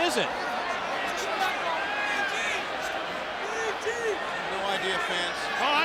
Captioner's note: people chattering